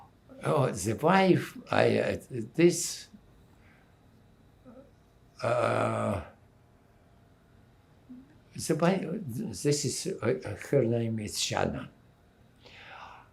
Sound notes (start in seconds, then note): 2.5 pauses 6 seconds